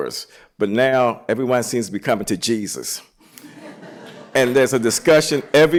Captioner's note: laughter